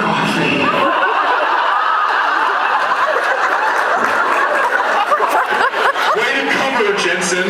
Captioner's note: laughing; laughs